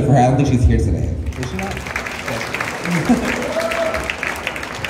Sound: cheers and Applause

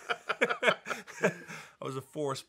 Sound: Dan's laughing; laughing

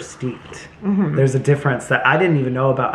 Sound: slurps tea

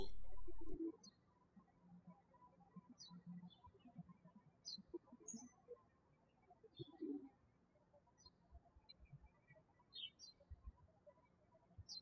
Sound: birds chirping

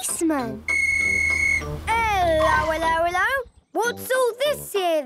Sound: whistle blowing

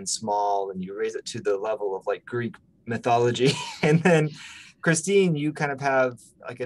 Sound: laughs

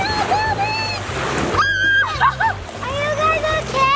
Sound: mom screaming

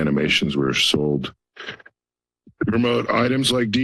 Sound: pause

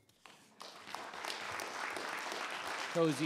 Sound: audience applauding

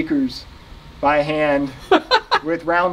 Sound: interviewer laughs

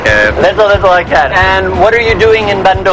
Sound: speaking indonesian

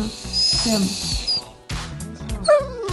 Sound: dog crying

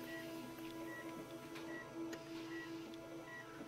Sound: beeping

